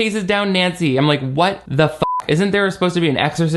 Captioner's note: beep